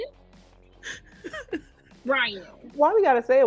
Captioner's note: laughing